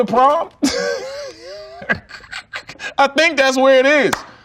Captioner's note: laughs